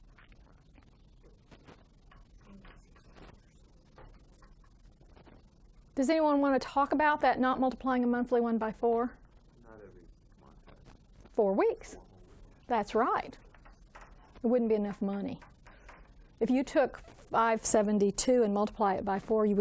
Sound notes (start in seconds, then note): 9.7 student speaking faintly